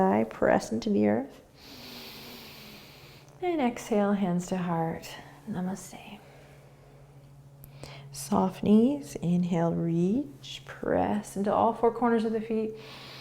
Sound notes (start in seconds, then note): 1.6 inhaling